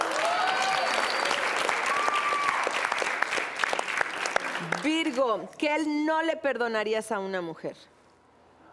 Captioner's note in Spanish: Aplausos